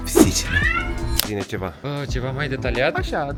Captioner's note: meow